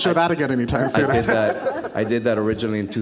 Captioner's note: audience laughs